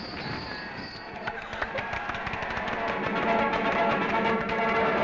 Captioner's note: vigorous clapping